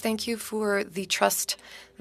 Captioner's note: speaking French